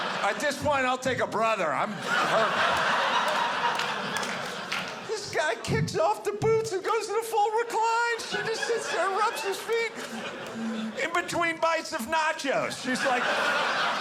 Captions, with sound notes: At this point, I'll take a brother. Well. [audience laughing] This guy kicks off the boots and goes in a full recline. She just sits there and rubs his feet in between bites of nachos, she's like